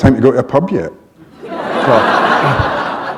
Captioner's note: laughter